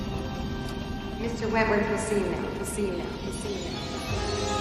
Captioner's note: echoing